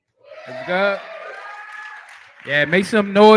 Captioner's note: cheering